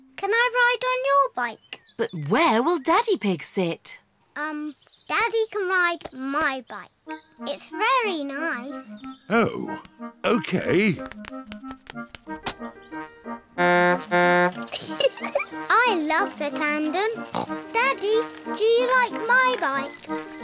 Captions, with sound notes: -Can I ride on your bike? -But where will Daddy Pig sit? Um, Daddy can ride my bike. It's very nice. Oh. Okay. (TOOTS HORN AND GIGGLES) I love the tandem. (SNORTS) Daddy, do you like my bike?